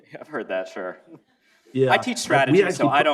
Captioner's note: laughs